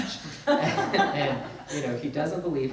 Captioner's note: both laugh